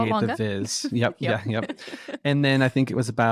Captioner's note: both laughing